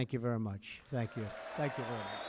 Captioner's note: applause